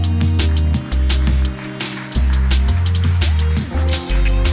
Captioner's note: applause